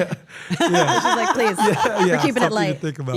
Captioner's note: laugh